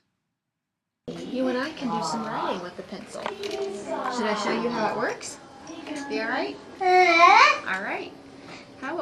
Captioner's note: child vocalizes